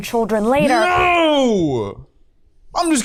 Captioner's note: dramatically